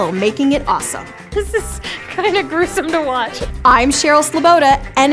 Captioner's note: laughs